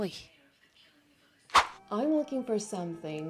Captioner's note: woosh